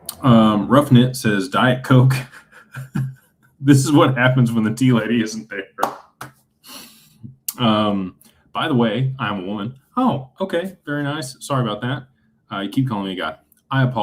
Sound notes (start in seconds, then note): 2.2 laughter; 7.0 snorts